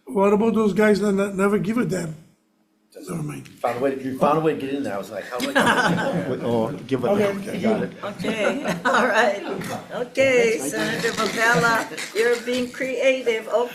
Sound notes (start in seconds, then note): 5.4 audience laughing; 9.6 audience laughing